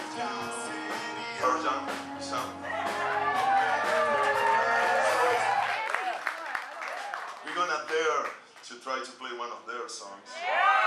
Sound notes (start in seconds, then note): 2.3 people cheering